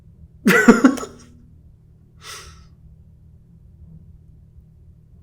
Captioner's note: Hyram laughing